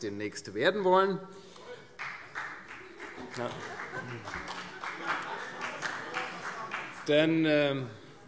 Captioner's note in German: Beifall - Heiterkeit